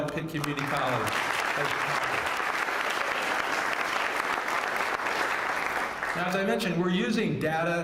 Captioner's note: applause